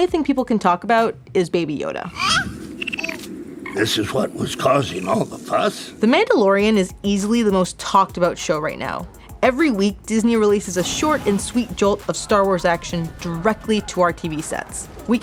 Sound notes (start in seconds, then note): 2.1 baby cooing